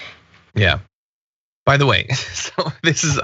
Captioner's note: laugh